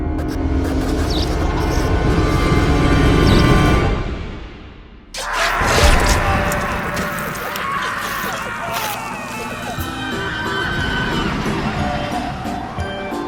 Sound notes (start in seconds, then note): 0.1 electricity buzzing; 5.1 both men screaming; 5.2 flesh squelching; 9.1 playful carnival music